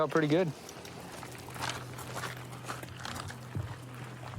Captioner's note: footsteps crunching